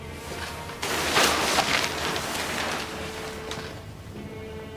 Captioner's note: plastic tarp rustles